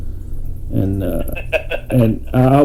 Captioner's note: laughing